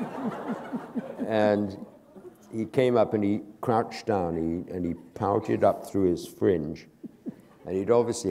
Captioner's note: laughter; chuckle